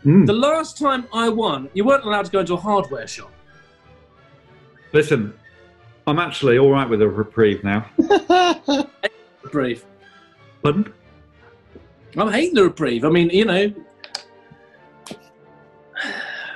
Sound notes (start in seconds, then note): 8.0 laughs; 16.0 sighs